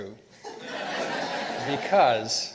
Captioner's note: participants laughing